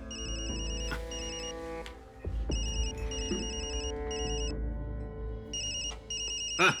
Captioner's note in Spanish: Suena un celular